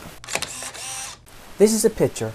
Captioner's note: camera Click